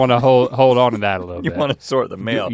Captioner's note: Rhett laughing